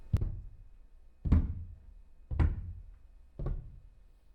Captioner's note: footsteps